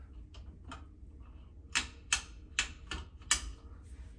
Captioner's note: click